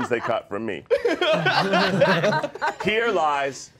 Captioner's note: laughing